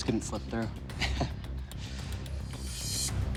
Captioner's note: laughs